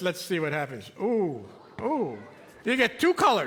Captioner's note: audience oohing